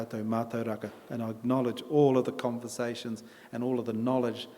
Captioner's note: in English